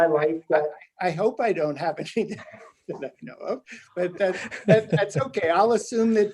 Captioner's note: laughs